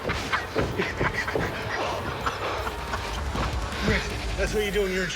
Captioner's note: laughs